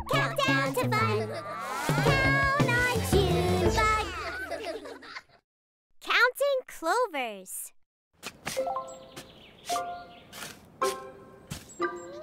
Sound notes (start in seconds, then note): 4.0 all laugh; 8.4 shovel digging